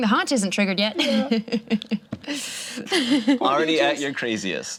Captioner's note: laughs